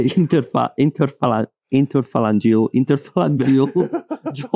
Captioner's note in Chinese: 哈哈哈哈哈哈哈